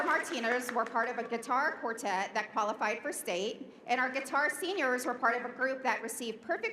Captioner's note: applause